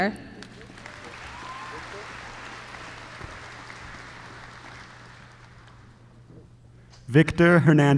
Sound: applause

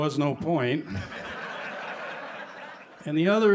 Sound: laughter

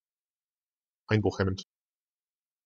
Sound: fast Pronunciation

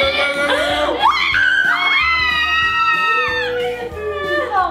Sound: excited screams

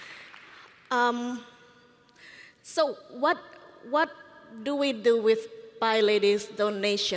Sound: applause

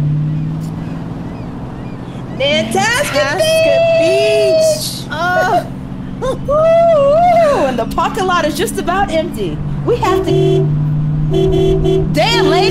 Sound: car honks

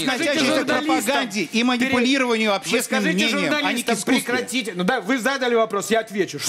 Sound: yelling from both sides

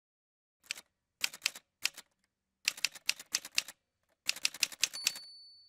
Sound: typewriter sounds

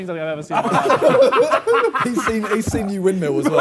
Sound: Sidemen laugh

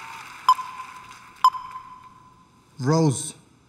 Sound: beeping

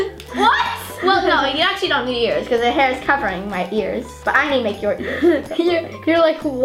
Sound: laughs

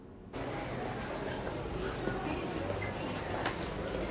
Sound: background chatter

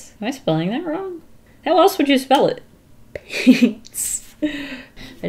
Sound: giggles

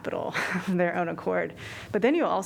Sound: laughter

